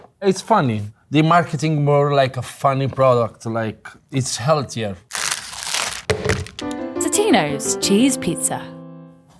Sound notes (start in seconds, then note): 5.1 plastic crinkling; 5.2 pizza clanging; 6.5 cheerful music